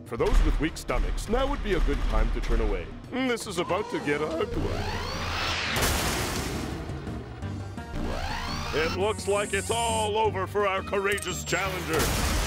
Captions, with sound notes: FOR THOSE WITH WEAK STOMACHS, NOW WOULD BE A GOOD TIME TO TURN AWAY. THIS IS ABOUT TO GET UGLY. (explosion) (mechanical whirring) IT LOOKS LIKE IT'S ALL OVER FOR OUR COURAGEOUS CHALLENGER.